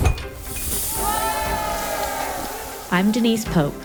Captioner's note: crowd exclaiming